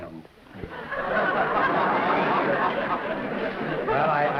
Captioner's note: laughter